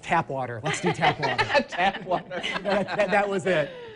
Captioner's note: laughing